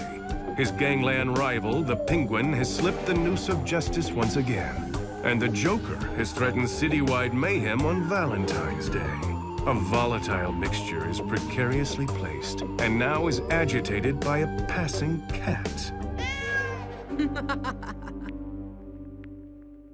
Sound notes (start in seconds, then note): 16.1 cat meows; 17.1 laughing